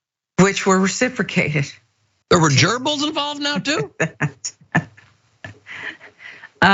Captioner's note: laugh